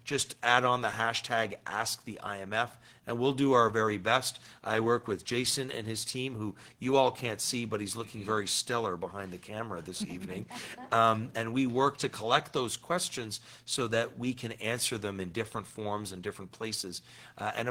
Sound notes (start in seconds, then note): 10.0 attendees laughing